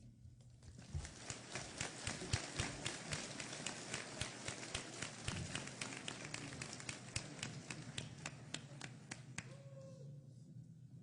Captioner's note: applause